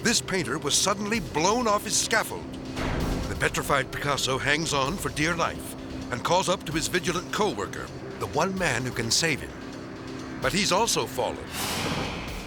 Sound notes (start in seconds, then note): none